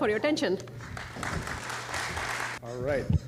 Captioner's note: applause